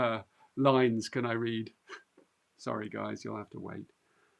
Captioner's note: chuckles